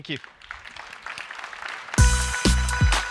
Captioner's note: applause